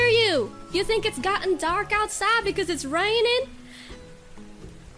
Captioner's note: southern accent